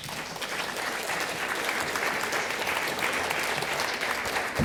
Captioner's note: applause